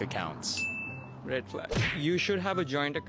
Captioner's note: bell dings